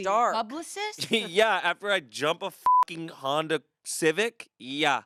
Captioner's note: beep